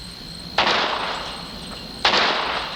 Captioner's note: gunshot